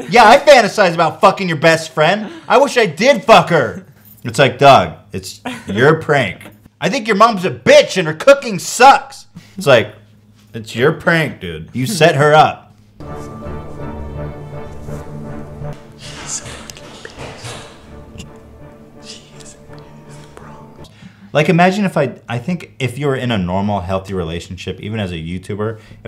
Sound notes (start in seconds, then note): 13.0 tense Music; 16.4 whispering